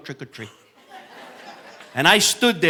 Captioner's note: audience laughing